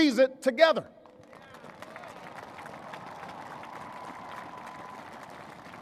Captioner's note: applause